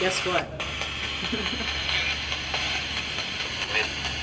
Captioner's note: laughing